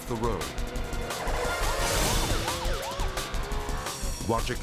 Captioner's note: intense music; siren wailing